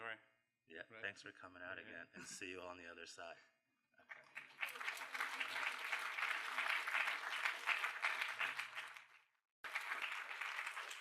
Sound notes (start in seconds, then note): 4.0 applause